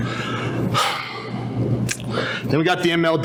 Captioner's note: sighs